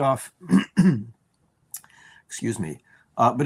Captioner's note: clears throat